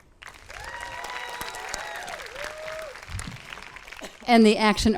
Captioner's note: audience claps and cheers